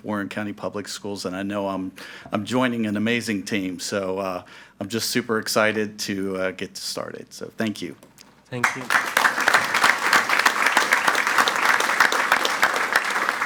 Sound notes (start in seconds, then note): 8.6 audience applauds